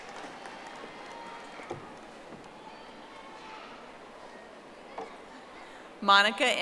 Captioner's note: audience applauding